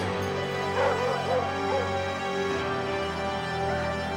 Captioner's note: dog barking; thrilling music